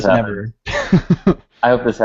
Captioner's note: laughter